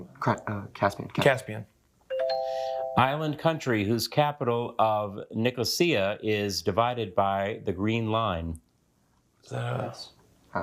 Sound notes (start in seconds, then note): 2.1 bell dings